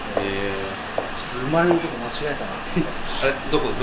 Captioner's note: laughs